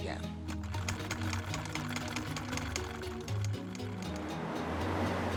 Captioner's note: sewing machine whirring